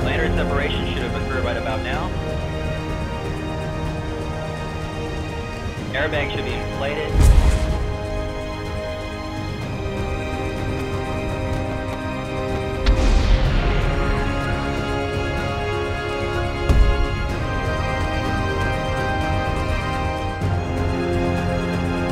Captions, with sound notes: The lander separation should have ocurred about now. Airbag should be inflated. (parachute deploys) (intense music)